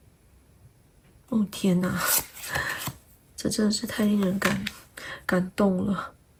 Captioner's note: drawing cards